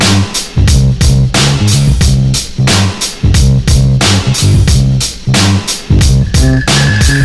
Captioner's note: Creaking Diff